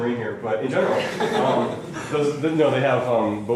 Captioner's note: laughter